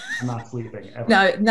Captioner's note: laughs